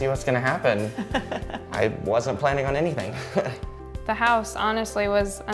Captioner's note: laughter